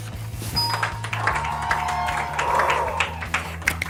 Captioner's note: applause